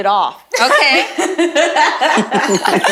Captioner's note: laughing